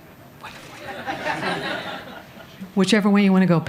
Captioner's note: laughter